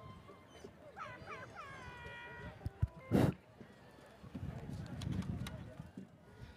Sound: audience member mimics airhorn

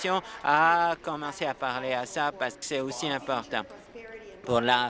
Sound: applause

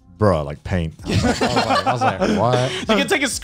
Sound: laughs

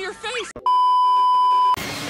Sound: beep

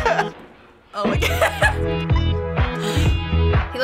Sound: cracking up; synthpop; laughing

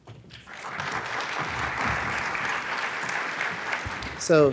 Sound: audience applauds

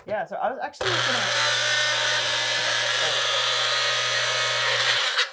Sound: mixer whirring

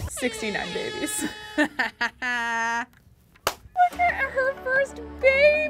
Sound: laughing

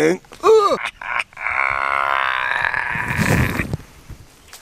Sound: evil laugh

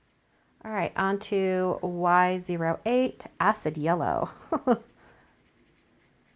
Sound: chuckles

